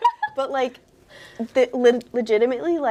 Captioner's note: laughing